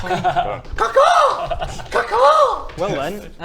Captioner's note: ca-caw!